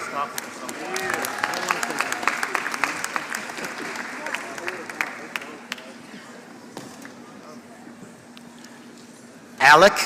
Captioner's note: applause